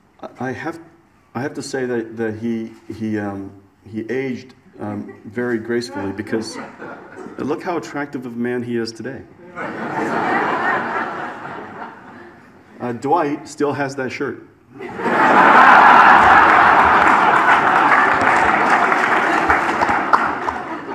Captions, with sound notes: I have to say that he, he aged very gracefully because look how attractive of a man he is today. (audience laughs) Dwight still has that shirt. (audience laughs) (audience applauds)